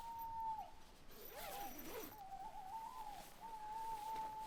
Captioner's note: owl hooting